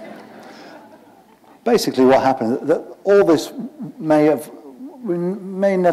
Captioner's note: laughter